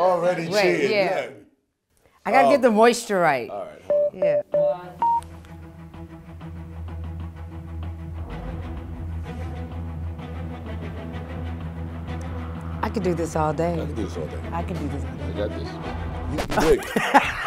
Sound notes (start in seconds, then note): 5.0 beeping; 5.8 suspenseful music; 16.6 Regina laughing